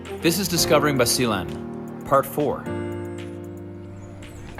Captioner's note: none